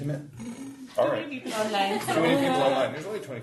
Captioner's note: group laughs